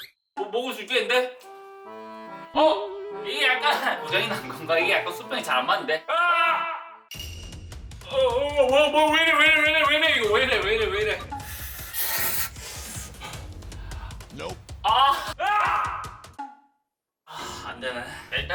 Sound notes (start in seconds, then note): 11.4 sucking it in